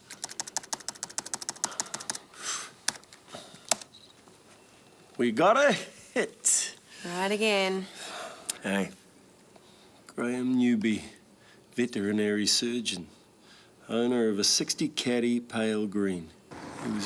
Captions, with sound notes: (keyboard clicking) We got it! - Right again. (Andy sighs) - Hey. - Graham Newby. Veterinary surgeon, owner of a '60 Caddy, pale green.